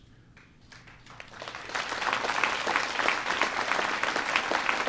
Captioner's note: applause